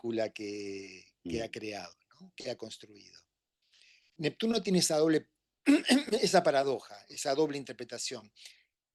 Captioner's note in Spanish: carraspeo